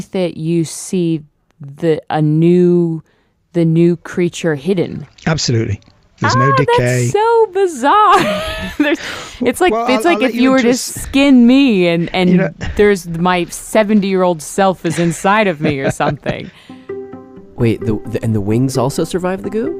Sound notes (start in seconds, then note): 11.7 laughs